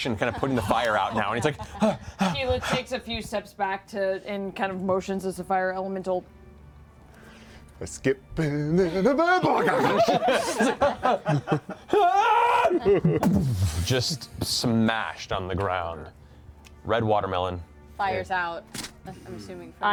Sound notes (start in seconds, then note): 9.2 gibberish yell; 13.2 scream, impact